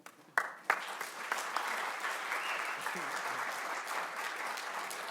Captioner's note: audience clapping